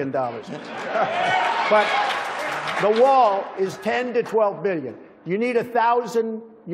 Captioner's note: applause